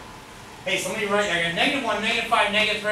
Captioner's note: speaks softly